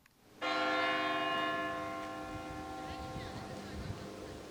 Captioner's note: bell tolling